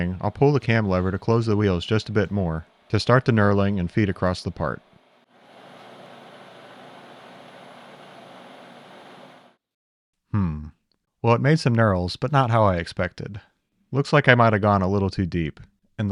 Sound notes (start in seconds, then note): 5.1 machine whirring